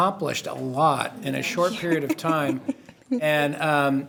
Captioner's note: chuckles